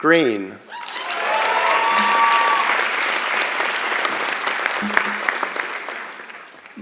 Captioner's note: applause and Cheering